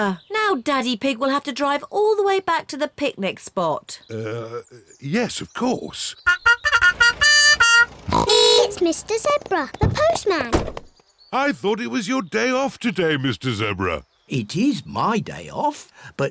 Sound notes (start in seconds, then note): 6.2 trumpet blows; 6.2 horn honks